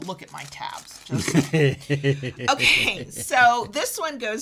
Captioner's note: laughs